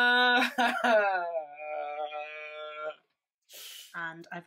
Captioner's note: laughs